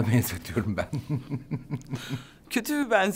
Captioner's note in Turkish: Gülüyor